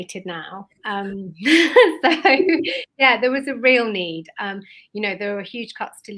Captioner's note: laughs